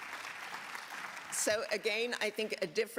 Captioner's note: applause